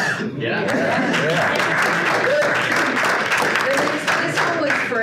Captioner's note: audience applauding